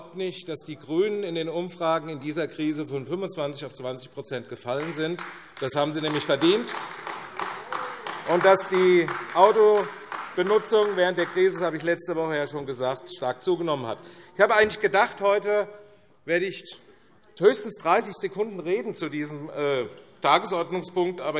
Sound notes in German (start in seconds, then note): 6.8 Beifall AfD